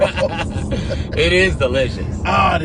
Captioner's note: laughter